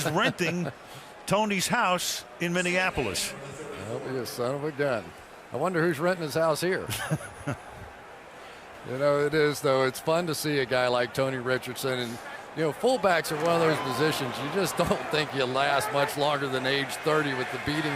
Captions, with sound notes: Favre is renting Tony's house in Minneapolis. [stadium announcements] I'll be a son of a gun. I wonder who's renting his house here. [laughs] You know it is though. It's fun to see a guy like Tony Richardson. And, you know, fullbacks are one of those positions, you just don't think you'll last much longer than age 30